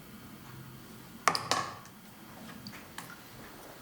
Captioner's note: clattering; soft dripping